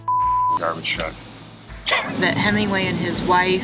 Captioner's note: truck rumbling